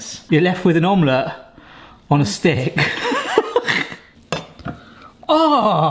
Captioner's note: laughs